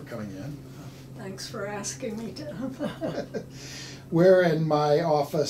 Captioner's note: laughs